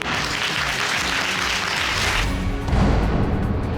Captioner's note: audience applauding